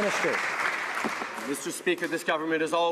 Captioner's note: some Applause